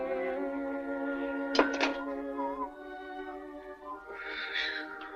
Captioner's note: peaceful orchestral music; whistles jauntily